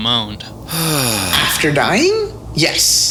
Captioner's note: Agent J sighs